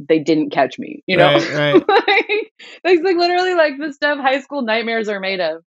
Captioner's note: laughter